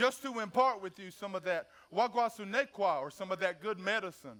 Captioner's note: speaks foreign language